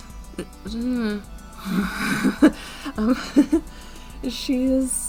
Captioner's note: nervous laughter